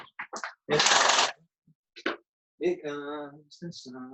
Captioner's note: blinds opening